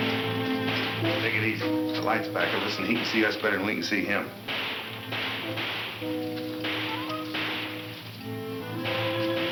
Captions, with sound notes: - Take it easy. The light's in back of us and he can see us better'n we can see him. (guns shooting in the distance)